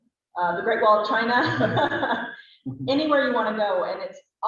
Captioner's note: laughter